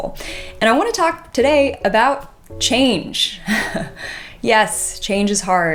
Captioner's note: chuckles